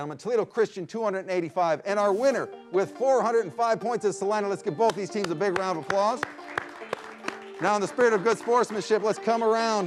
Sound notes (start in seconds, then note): 4.8 claps; 6.9 audience clapping